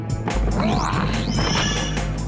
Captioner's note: gasps